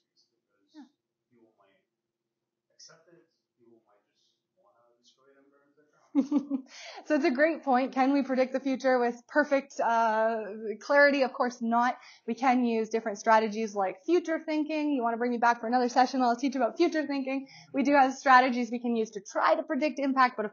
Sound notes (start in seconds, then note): 6.1 chuckles